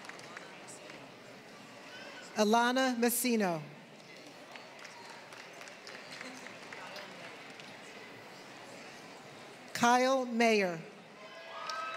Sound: applause; applause; applause

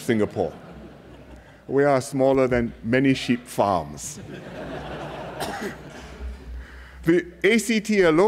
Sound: laughter

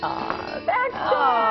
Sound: laughing

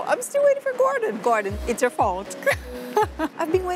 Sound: laughs

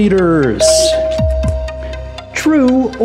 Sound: bell dings

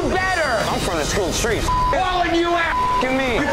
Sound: beep

